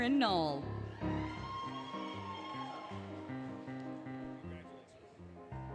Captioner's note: applause, Cheering, Music